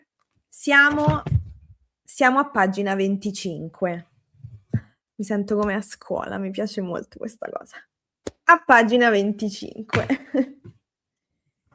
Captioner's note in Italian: risate